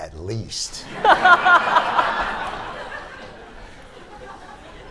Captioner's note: laughter